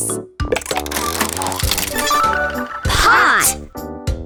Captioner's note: mechanical whirring